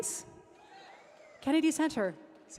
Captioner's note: audience cheering